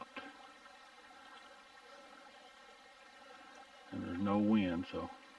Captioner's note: burbling water